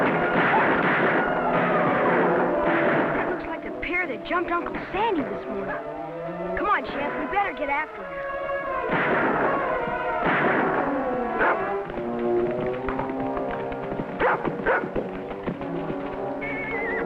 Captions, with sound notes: (gunshots) (dramatic music) - That looks like the pair that jumped Uncle Sandy this morning. Come on, Champ. We'd better get after them. (gunshots) (dog barking)